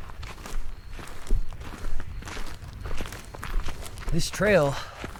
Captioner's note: insects chittering; footsteps crunching; leaves rustling